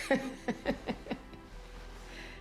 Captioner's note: laughs